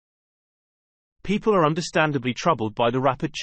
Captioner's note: british male voice